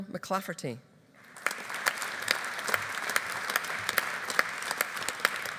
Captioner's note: audience applauding